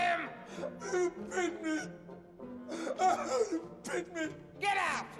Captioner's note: crying